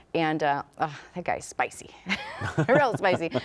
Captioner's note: laughs